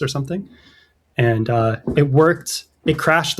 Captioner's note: uh